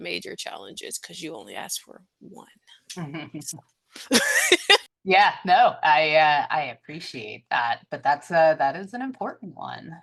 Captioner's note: laughs